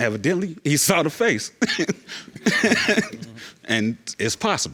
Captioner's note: chuckling